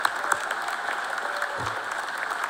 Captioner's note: cheers and applause